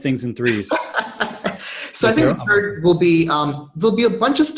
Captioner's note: laughs